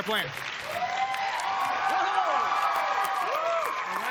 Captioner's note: cheers and applause